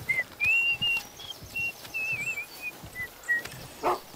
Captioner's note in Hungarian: Fütyül